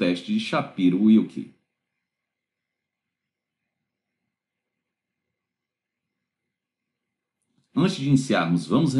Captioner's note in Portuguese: Silêncio